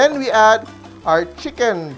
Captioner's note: sizzle